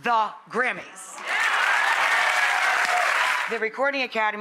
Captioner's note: applause